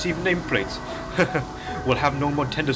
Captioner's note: chuckles